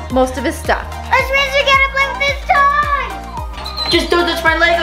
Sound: girl screams

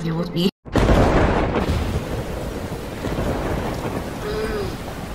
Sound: thunderstorm, Heavy Wind and Rain Sounds

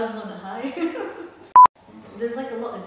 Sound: piep

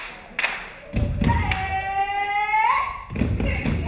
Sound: dancer yelling

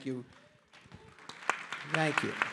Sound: audience applauding

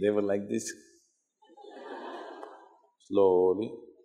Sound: laughter

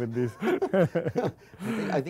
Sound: laughter

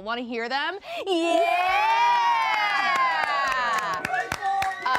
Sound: all cheering

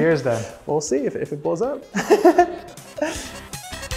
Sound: chuckling; upbeat music

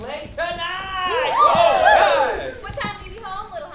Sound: cheering

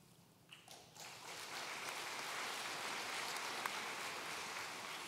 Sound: audience applauds

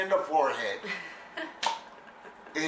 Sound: laughter

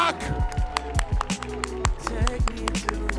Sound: audience cheering

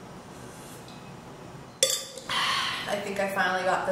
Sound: straw clangs; sighs

